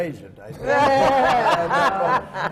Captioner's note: laughter